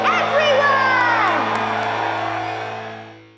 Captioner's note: cheering